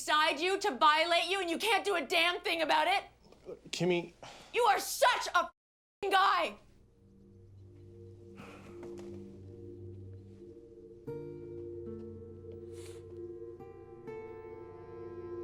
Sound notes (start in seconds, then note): 8.3 sighs; 12.6 sniffles